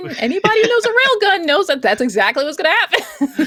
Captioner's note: laughter